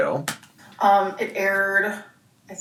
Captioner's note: keyboard clicking